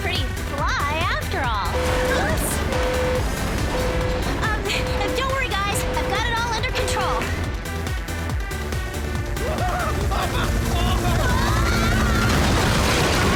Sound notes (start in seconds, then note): 9.4 panicked yelling